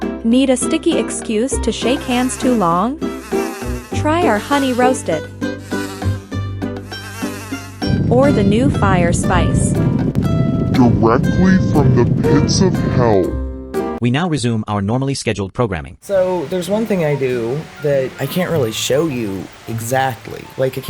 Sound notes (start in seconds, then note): 3.0 bees buzz; 6.8 buzzing; 9.8 flames roar; 9.8 music slows